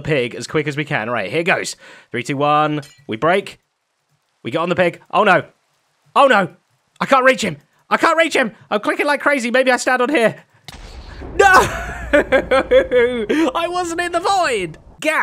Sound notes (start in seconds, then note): 10.7 explosion; 11.7 laughs